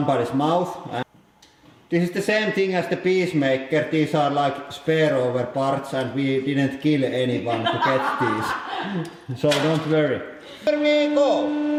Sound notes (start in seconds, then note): 7.4 evil laughing